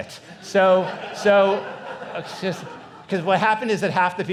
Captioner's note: audience laughs